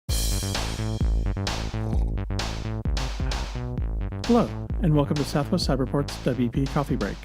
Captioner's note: slurp